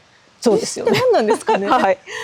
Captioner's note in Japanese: 笑い